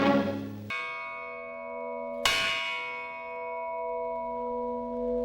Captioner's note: church bells